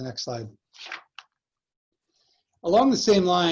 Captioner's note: paper rustling